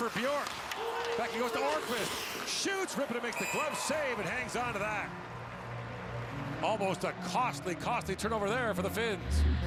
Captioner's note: cheering